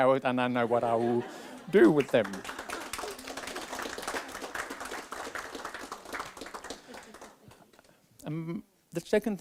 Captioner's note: applause